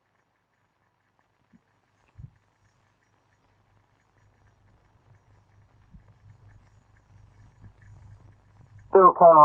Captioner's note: silence